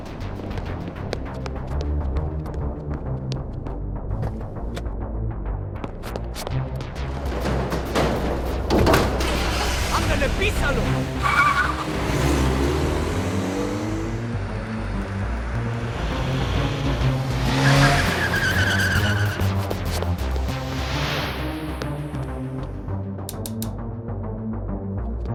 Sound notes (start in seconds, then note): 0.2 intense music continues; 4.5 door opens; 8.8 engine starting; 11.8 tires screeching; 17.8 tires screeching; 23.2 trigger clicking